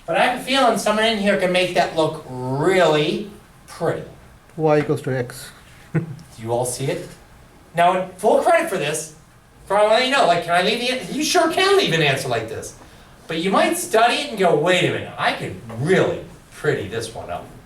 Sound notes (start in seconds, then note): 5.1 voiceover